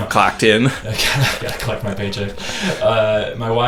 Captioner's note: both chuckling